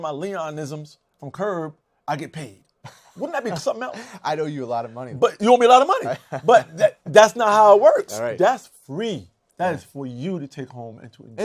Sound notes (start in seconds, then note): 5.9 laughs